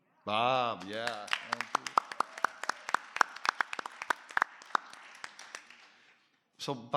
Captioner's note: applause